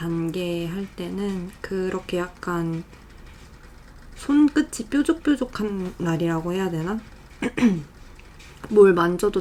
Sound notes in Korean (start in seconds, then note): 7.4 목을 가다듬음